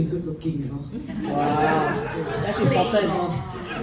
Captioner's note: laughter